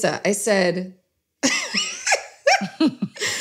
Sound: laughs

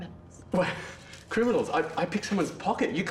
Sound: laughing

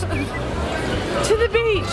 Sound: laughing

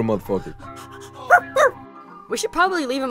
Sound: high pitched happy bark

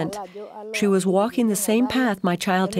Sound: speaking in foreign language

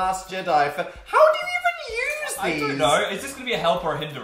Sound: high pitched

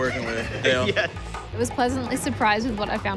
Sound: laughs

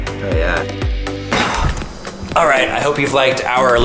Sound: sighs

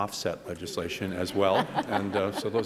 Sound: laughter

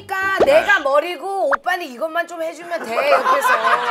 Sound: chatting

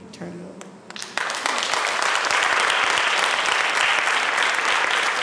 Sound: applause

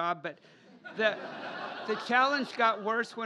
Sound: laughter

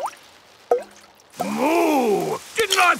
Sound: water dripping

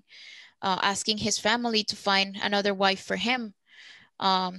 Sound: speaking Spanish

